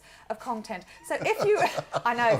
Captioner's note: laughter